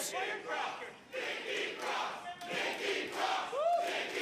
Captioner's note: crowd cheering